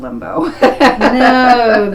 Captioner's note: laughs